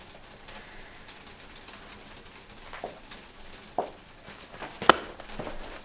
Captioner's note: rain hitting window